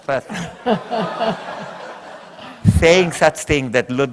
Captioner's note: laughter